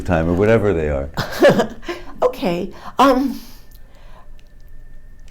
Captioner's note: laughs